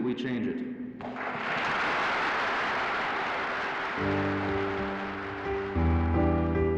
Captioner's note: loud applause